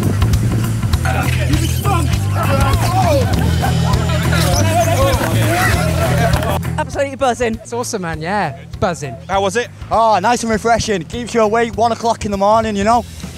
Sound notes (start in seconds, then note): 1.0 groaning; 4.2 sliding